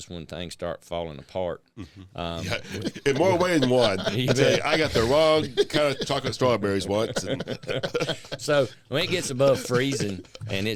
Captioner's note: laughing